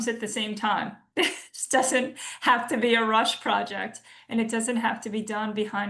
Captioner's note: laughs